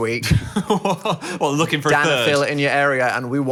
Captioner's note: laughs